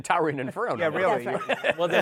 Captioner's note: laughs